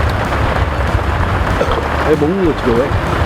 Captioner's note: burp